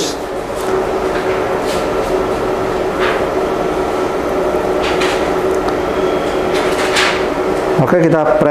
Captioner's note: PET film sound